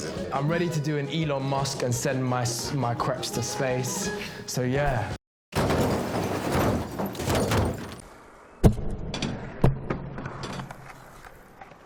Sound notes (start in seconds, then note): 5.5 crashing sounds; 8.4 boxes thump